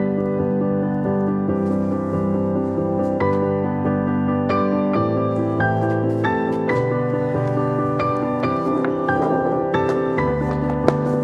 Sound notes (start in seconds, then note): 8.0 ticking; 9.0 chair scratches